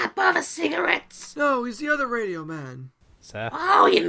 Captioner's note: shouting to her